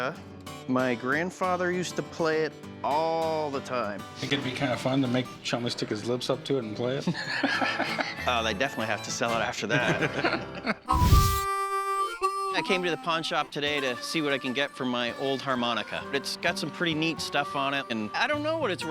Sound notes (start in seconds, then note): 7.1 laughs; 9.6 laughter